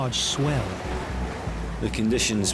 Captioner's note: waves crash